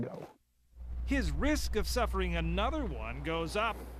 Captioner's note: voiceover